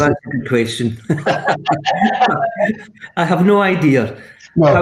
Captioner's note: laughs